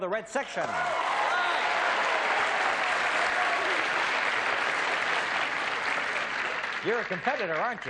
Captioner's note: applause